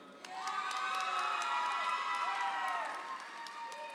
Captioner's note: audience applauds